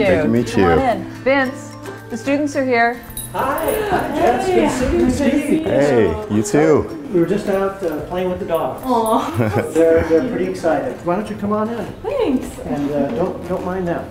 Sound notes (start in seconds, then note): 9.0 laughs